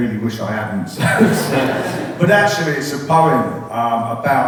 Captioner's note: laughter